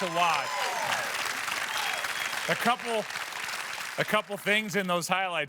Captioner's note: cheers and applause